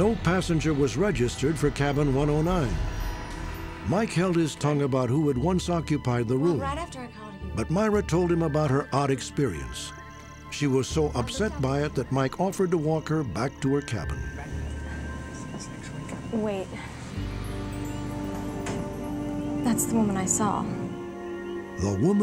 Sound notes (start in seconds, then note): 15.1 whispering; 17.3 eerie music